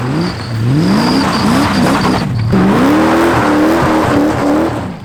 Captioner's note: squeaky power steering